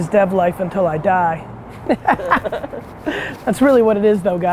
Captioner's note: Gary and DRock laugh